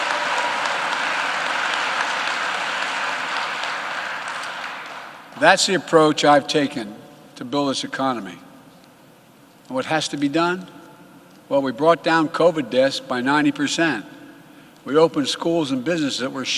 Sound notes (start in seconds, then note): 5.1 applause